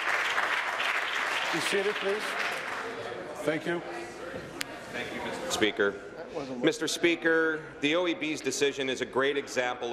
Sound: applause

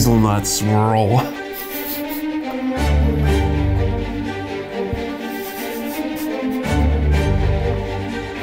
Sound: laughing

